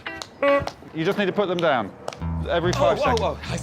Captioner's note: horn sounds